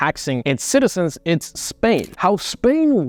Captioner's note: screen scratches